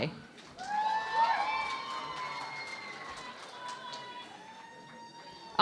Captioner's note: cheering and Applause